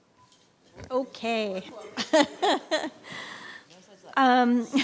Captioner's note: laughing